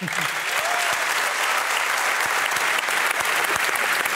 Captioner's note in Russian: публика аплодирует